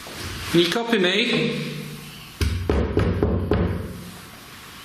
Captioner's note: banging